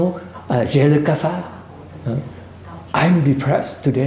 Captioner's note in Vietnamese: French